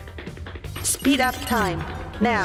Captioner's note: robot voice